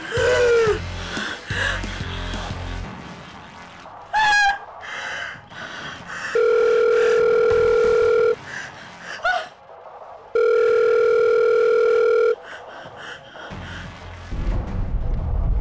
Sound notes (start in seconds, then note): 0.0 woman gasps; 4.1 woman yelps; 6.3 phone rings; 10.3 phone rings